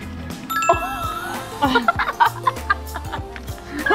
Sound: laughing

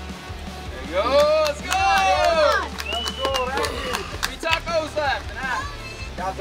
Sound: cheering & Clapping

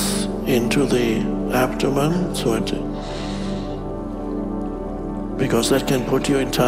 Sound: inhales

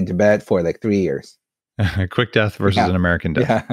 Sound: laughs

